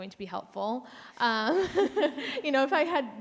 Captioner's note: laughs